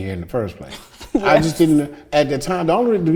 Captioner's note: chuckles